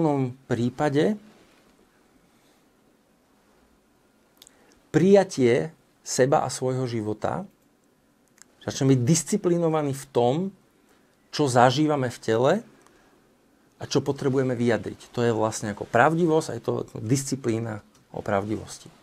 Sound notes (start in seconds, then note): none